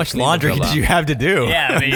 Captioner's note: laughs